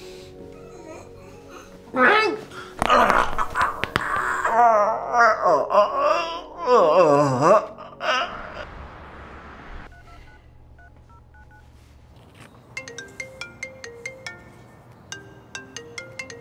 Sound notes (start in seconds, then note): 3.9 grunts; 12.3 phone ringing